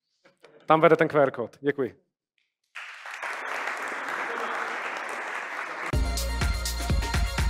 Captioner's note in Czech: Potlesk